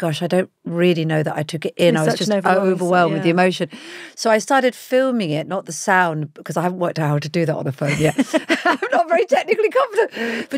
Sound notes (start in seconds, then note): 7.8 Giovanna laughs